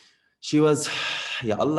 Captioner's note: sigh